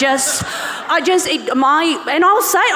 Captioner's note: audience and panellists laughing